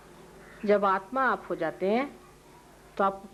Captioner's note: Hindi